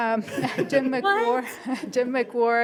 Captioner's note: everyone laughs